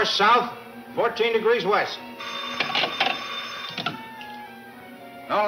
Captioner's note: phone ringing